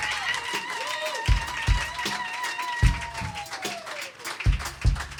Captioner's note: audience applauding and cheering